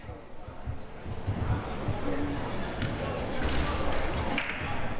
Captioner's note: audience chattering